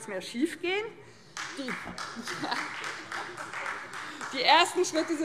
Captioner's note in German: Demonstrativer Beifall Freie Demokraten